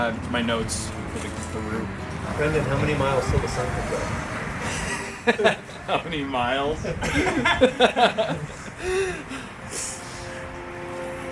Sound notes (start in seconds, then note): 6.7 laughing